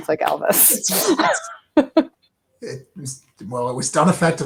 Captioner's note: laughing